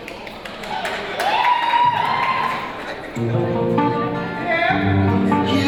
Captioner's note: applause, cheering